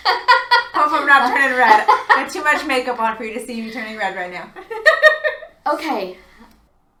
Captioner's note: laughs